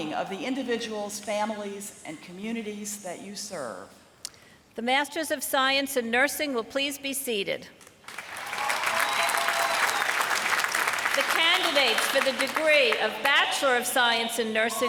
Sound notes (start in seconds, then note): 8.0 applause